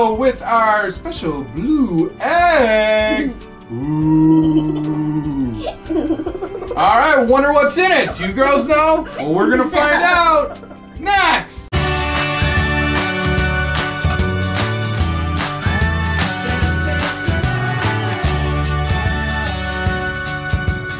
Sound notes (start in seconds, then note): 3.7 laughing; 12.0 upbeat music